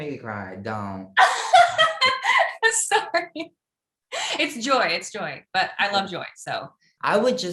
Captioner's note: laugh